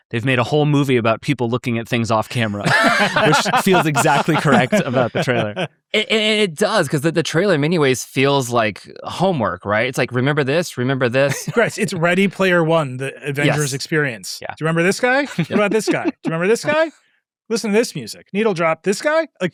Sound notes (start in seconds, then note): 5.5 participants laughing